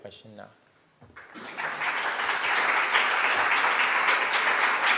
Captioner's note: crowd applause